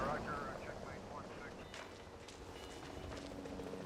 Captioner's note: helicopter flying